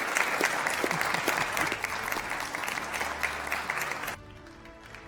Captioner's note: applause